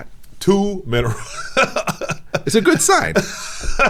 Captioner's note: laughing